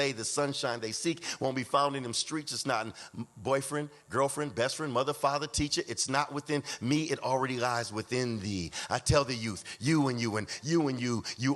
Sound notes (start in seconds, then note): none